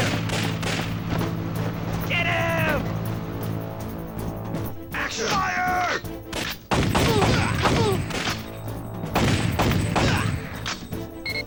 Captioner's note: game audio